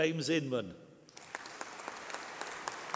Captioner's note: applause